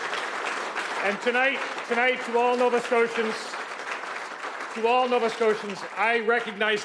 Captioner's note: cheers and Applause